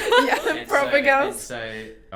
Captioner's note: laughter